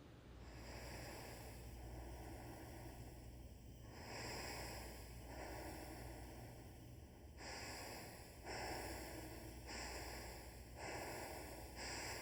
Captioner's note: the sound of one person Inhaling and exhaling playing